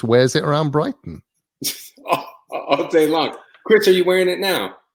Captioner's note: laugh